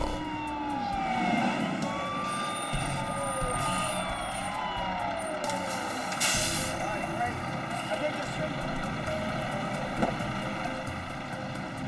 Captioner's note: sirens